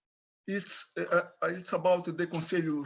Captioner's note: speaks in foreign language